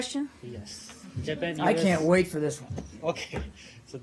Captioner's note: laughter